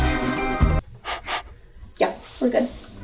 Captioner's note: sniff sniff